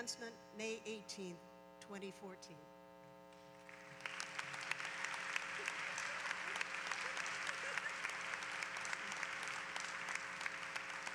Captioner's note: applause